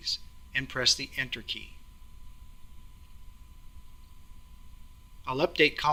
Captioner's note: pause